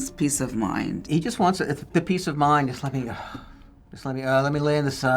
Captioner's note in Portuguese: suspirando